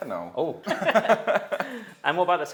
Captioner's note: both laughing